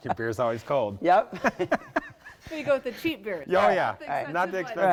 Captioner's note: laughter